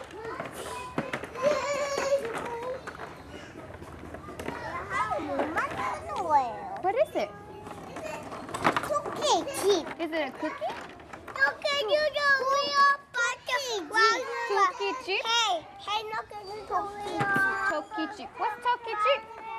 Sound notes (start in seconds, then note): 2.5 speaks korean; 7.8 speaks korean